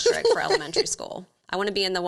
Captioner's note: laughs